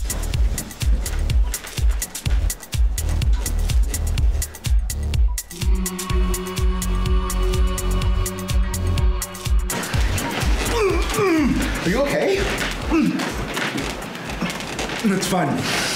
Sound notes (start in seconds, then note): 5.6 creepy ambience; 9.9 groaning